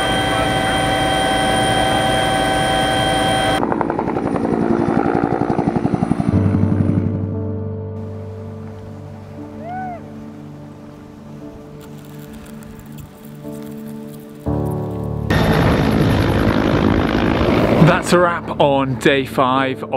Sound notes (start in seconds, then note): 3.6 helicopter blades whirring; 7.1 gentle music; 11.8 skis whooshing; 15.2 engine roaring